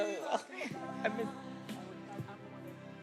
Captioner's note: speaks faintly